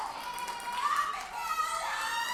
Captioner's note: audience cheers